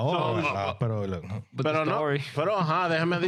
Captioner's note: speaking Foreign Language